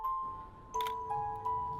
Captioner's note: camera shutter